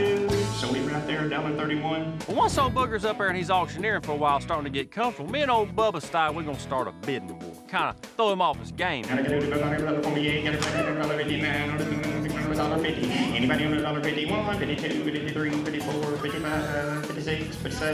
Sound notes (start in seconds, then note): 9.2 auctioneering